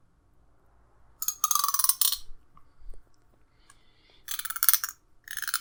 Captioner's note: comb teeth clinking